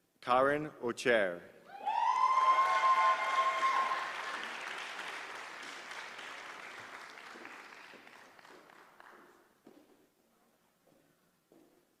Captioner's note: applause